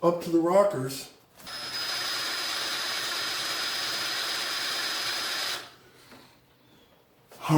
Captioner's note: drill whirring